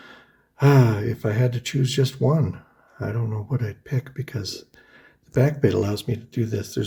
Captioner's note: sighs